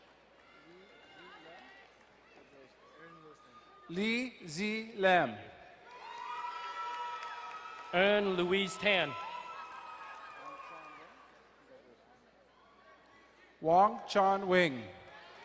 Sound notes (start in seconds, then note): 0.1 distant cheering; 5.8 crowd cheering and applauding; 9.5 distant cheering; 11.7 quiet talking